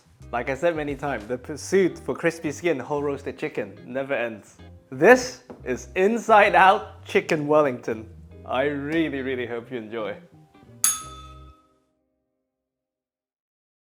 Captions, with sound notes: Like I said many times, the pursuit for crispy skin whole roasted chicken never ends. This is Inside Out Chicken Wellington. I really, really hope you enjoy. [bell rings]